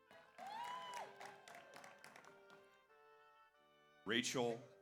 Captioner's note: audience applauds; audience cheers